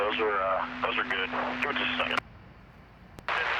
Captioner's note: static